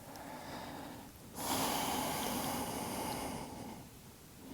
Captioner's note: deep breathing